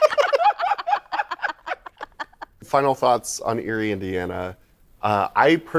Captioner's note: laughter